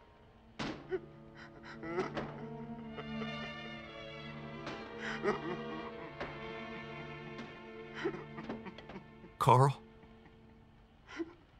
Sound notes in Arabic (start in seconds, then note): 1.4 بكاء